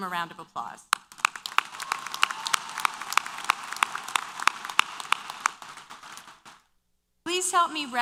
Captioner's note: applause & Cheers